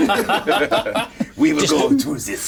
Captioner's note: players laughing